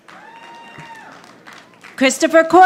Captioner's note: audience applauding